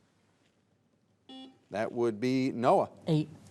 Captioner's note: buzzer beeps